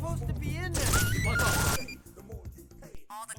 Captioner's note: gunshots